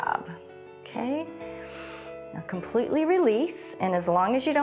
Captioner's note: inhales